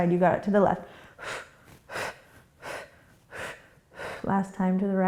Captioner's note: quick breaths